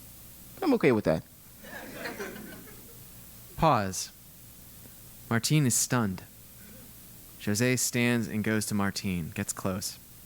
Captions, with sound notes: I'm okay with that. >> [LAUGH] >> Pause, Martin is stunned. Jose stands and goes to Martin, gets close.